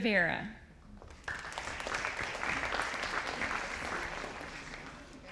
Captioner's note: audience applauding